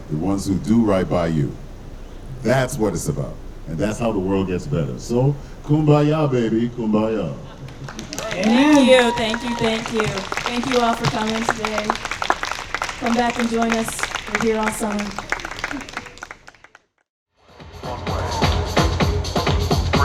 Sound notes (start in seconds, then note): 7.6 audience cheering; 15.3 audience clapping